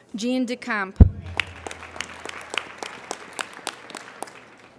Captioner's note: applauding